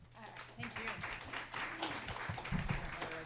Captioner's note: applause